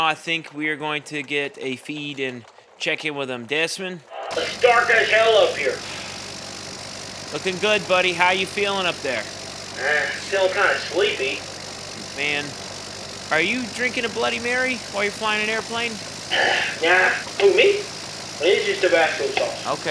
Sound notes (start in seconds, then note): 4.5 Desmond, plane buzzing in the background